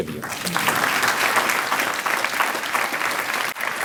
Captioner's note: applause